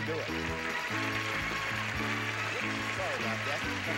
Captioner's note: audience applauding